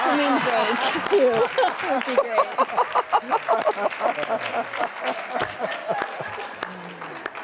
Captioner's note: laughs; laughing